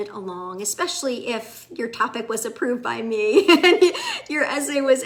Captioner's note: laughs